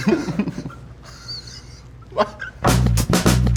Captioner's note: laughter; drumming